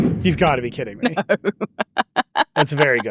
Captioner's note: chuckles